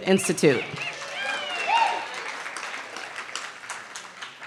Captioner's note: cheering